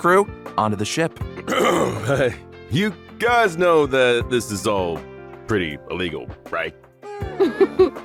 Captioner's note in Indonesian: Ehem